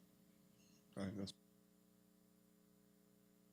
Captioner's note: speaking off mic